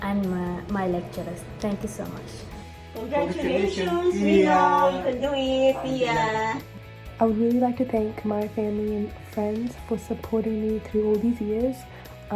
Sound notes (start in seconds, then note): 5.2 speaking foreign language